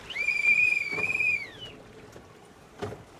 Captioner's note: whistle